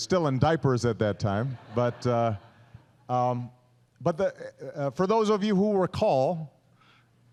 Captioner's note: laughter